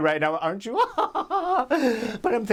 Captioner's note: laughs